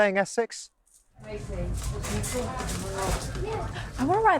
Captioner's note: people chattering